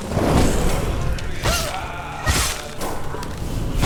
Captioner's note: none